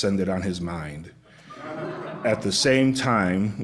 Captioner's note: laughter